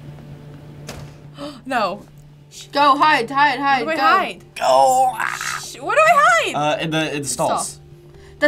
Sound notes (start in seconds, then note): 1.3 gasps